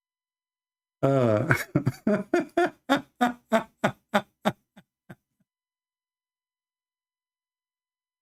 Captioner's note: Ketawa